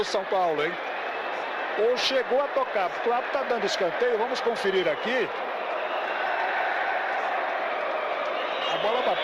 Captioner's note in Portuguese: aplausos